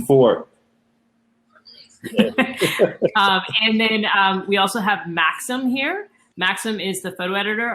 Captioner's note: laughter